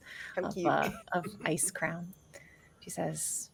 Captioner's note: laughs